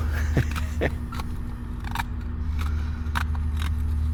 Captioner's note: wood scraping